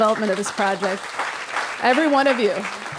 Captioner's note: applause